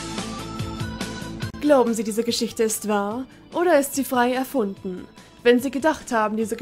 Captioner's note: imitating Jonathan Frakes